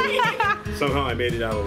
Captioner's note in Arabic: يضحك